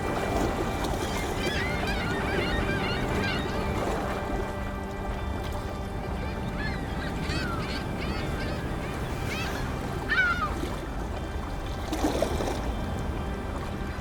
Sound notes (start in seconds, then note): 0.7 dramatic music; 0.7 water lapping